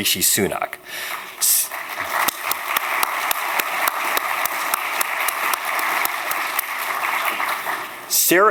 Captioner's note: applause